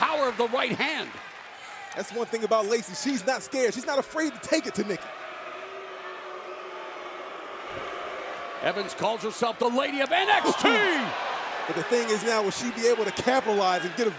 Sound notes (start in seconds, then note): 12.8 crowd chatter